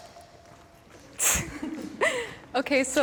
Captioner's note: laughter